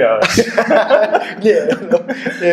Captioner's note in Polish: śmiech